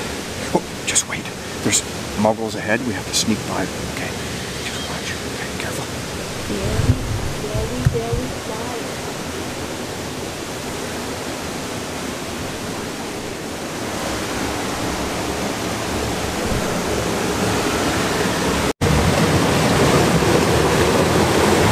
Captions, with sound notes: [whispering] Oh, just wait there's muggles ahead; we have to sneak by them. Okay. [whispering] Just watch. Careful.